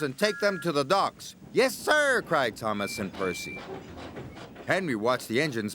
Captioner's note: whistles